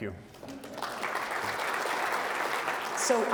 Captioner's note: audience applauding